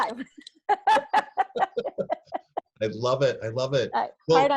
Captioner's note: laugh